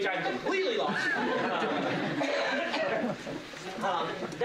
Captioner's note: laughter